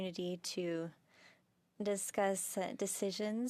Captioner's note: speaking French